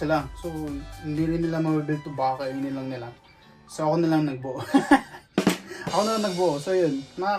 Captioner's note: laughs